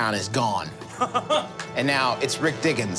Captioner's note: laughing